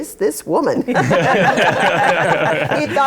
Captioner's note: laughter